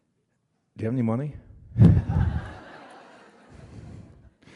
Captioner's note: laughter